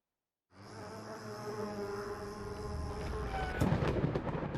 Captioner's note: bees buzzing; lightning crackles